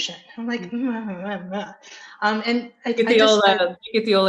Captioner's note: mumbles negatively